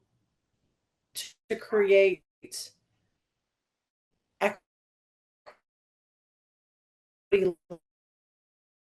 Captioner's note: audio cuts